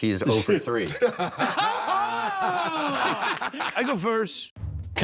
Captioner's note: laughing